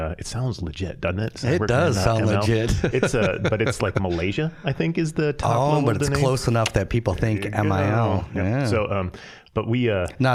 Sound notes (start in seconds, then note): 2.4 chuckling